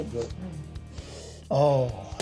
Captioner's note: sniffs